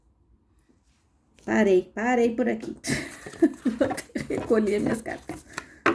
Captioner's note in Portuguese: risadas